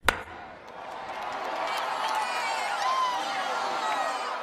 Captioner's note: crowd cheering